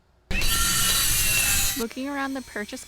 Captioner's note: loud sawing